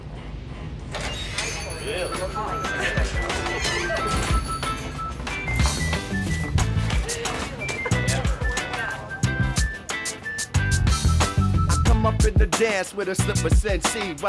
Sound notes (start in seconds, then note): 1.1 bell rings; 5.2 gentle R&B music